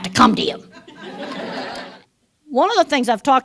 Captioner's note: laughter